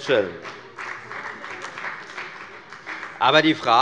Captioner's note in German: Beifall bei der FDP